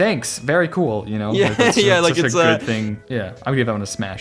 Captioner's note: laughs